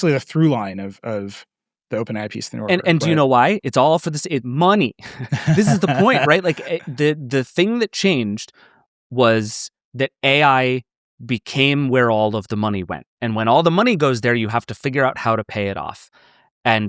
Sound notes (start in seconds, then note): 5.0 laughing